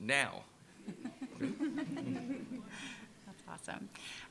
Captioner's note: laughter